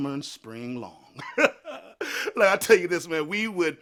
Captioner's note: chuckles